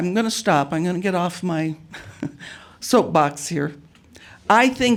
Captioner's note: chuckles